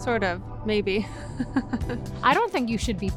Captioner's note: laughs